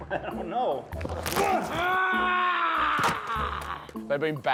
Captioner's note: grunting